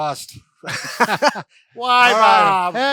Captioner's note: laughs